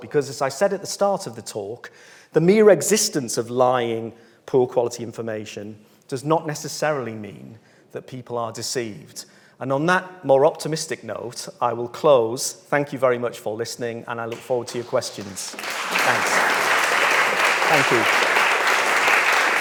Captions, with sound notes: Because as I said at the start of the talk, the mere existence of lying poor quality information, does not necessarily mean that people are deceived. And on that more optimistic note, I will close. Thank you very much for listening, and I look forward to your questions. (audience claps) Thanks. Thank you.